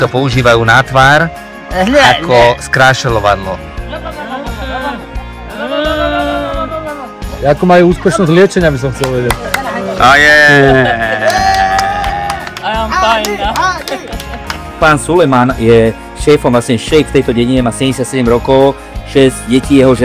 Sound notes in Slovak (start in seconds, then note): 11.1 Potlesk